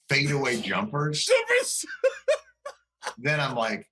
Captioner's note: laughter